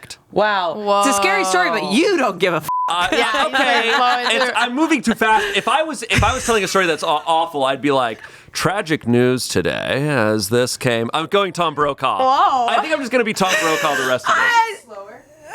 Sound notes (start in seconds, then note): 2.6 beep